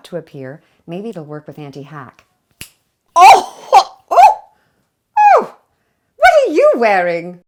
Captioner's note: snap